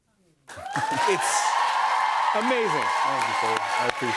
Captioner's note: cheers and applause